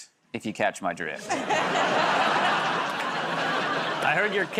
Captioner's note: laughter